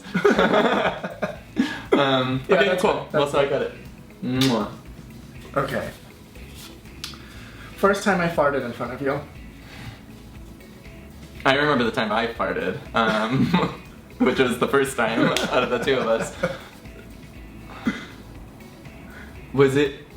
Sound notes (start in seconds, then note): 0.0 laughing; 4.4 kissing